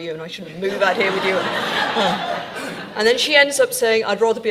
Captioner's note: audience laughing